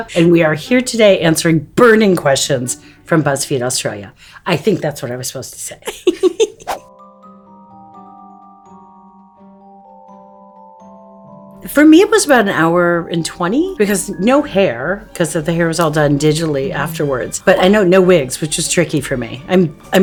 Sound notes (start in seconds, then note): 5.8 laughs; 6.3 bright music